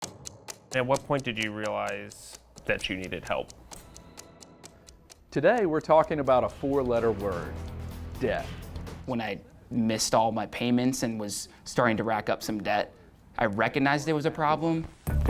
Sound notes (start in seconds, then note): 0.3 ticking